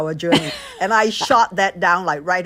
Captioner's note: laughter